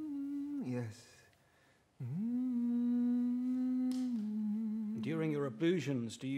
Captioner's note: keeps humming